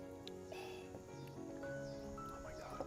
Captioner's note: exhales